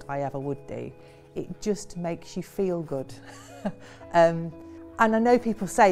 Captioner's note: laughing softly